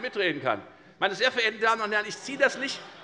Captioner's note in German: Allgemeine Heiterkeit